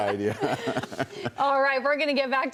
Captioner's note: laughter